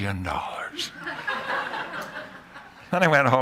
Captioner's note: laughter